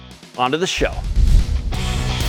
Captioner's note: whoosh